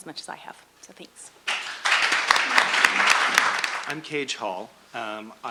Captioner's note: audience and panel applauding